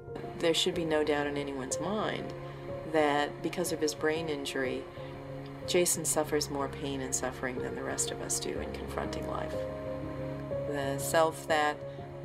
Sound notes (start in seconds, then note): none